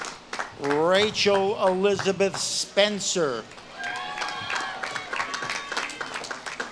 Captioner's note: audience claps and cheers